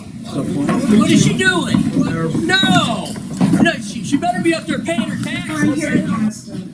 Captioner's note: offscreen male voices